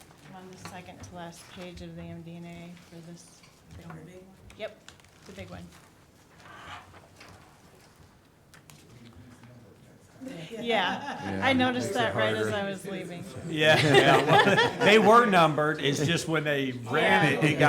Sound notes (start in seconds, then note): 8.9 murmuring; 13.3 group laughing